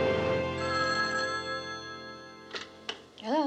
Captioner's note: phone rings